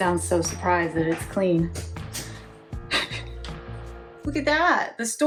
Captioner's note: chuckles